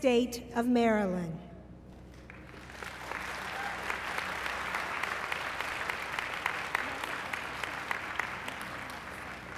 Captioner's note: applause